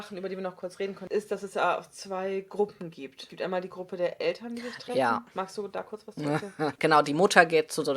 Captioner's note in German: sarkastisches lachen